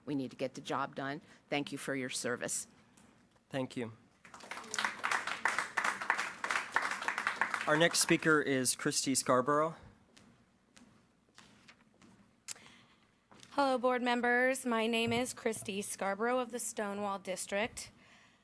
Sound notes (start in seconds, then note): 4.2 applause